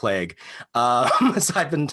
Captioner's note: laughs